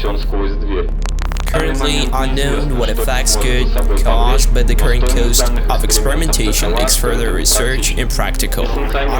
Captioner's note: static